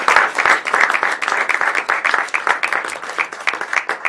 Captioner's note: applause